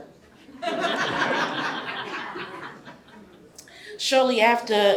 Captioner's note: audience laughs